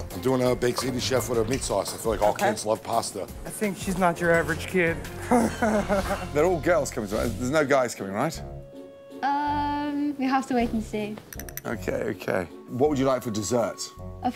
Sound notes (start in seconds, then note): 5.2 laughing